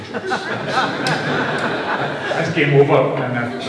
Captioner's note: laughter